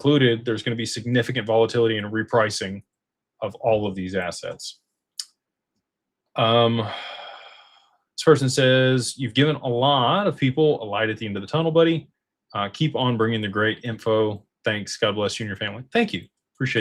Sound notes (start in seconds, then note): 6.4 sighs